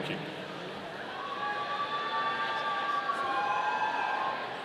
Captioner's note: audience cheering